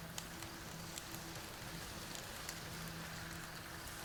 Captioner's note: fire crackling